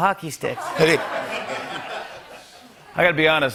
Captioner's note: laughter